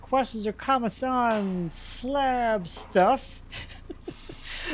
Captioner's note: laughs